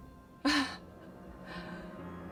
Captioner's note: laughs